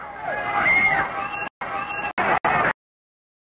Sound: people screaming

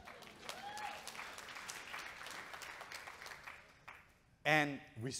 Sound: audience cheering and clapping

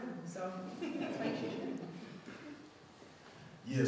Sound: audience chuckling

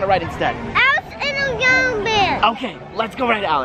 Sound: babbles

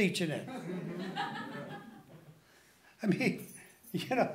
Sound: laughing

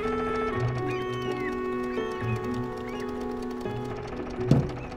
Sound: seagull sounds

